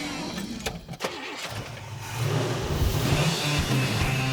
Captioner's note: engine rumbling